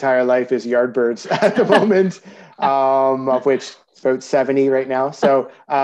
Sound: haha

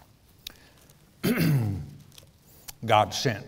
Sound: pastor clears throat

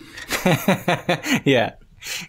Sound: laughter

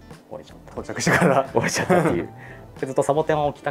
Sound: laughs

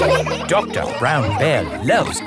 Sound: all laughing

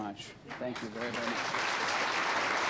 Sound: applause

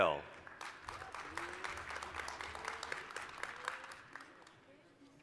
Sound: applause

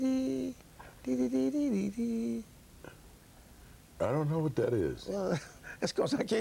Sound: humms

